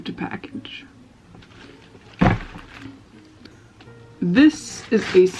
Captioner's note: thud